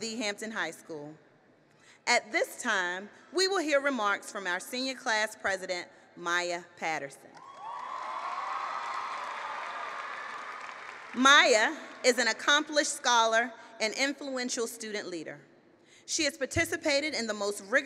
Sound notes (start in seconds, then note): 7.4 cheering and applause